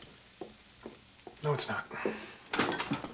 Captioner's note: sighing